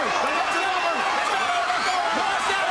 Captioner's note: crowd chatter